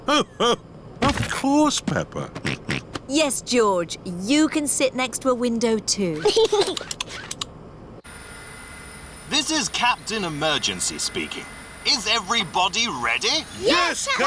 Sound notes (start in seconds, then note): 2.9 snorts; 6.2 giggles